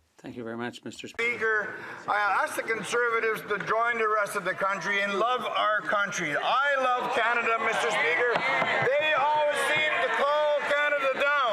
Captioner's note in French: voix de l'interprète